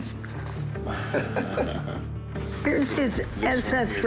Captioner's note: laughs